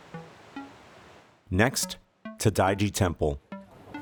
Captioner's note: voiceover